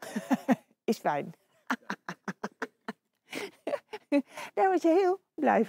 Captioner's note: laughing